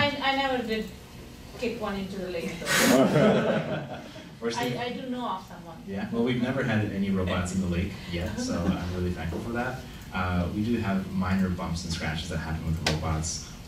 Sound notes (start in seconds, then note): 2.6 laughing